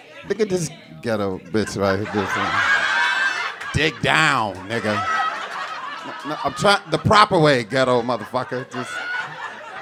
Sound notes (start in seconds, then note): 2.4 audience cackling; 5.2 audience laughing